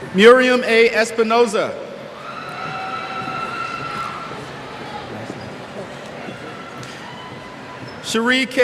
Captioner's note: cheers